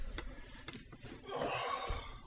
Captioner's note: sigh